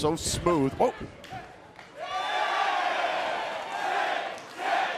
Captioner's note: crowd cheering